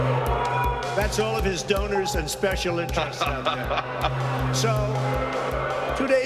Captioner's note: audience jeering